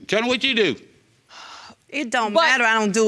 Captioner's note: sighs